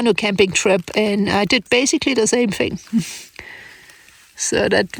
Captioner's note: laughs